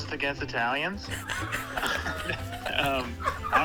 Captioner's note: all laughing